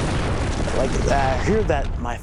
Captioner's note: explosion